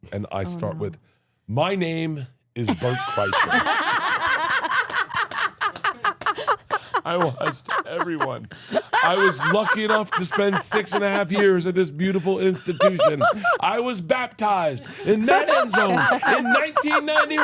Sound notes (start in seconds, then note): 2.7 laugh; 12.1 laughs